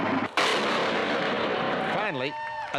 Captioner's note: cannon firing